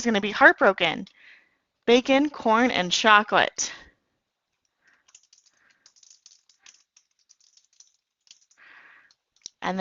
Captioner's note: typing